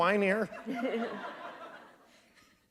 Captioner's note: laughter